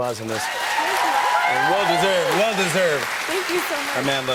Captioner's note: cheers and applause